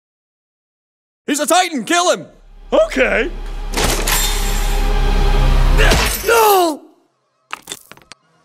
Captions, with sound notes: He's a titan! Kill him! Okay! [sounds of pain]